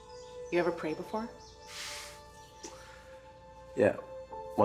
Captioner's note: laughs